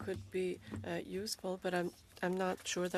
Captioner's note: speaking French